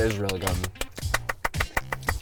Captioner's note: clapping